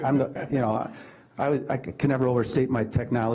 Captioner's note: man laughs